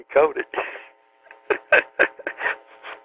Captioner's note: laughter